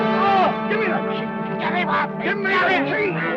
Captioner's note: groans